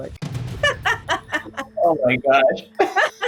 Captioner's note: laughs